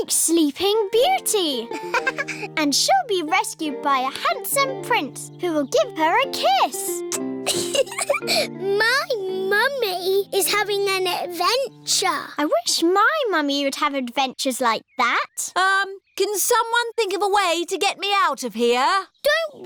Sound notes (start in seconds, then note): 1.6 laughs; 7.0 air kisses; 7.4 giggles